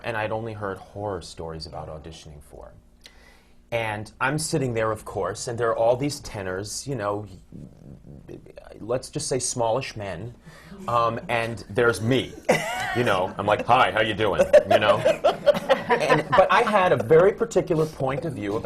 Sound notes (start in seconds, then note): 12.4 laughter; 13.7 deep voice; 15.7 laughter